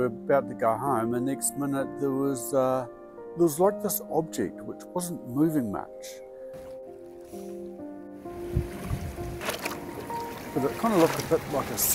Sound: waves lapping

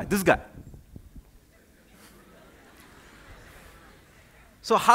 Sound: laughter

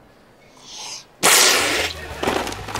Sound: spewing

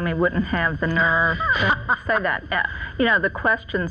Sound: laughs

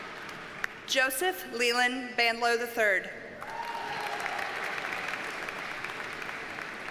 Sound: audience cheers and applauds

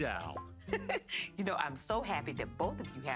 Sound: chuckles

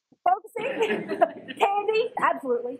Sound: laugh

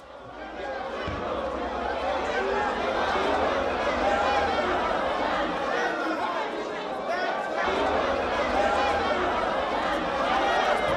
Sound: indistinct shouting

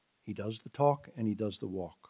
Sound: none

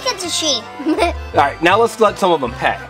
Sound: giggles

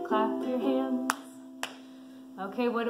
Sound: clapping

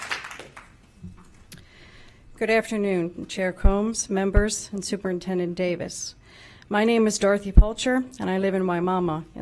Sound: applause

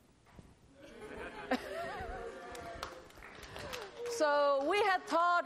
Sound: laughter

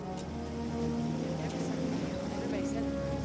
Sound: chattering

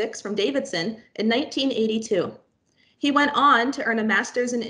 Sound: none

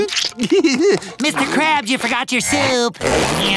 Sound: gulps and chuckles

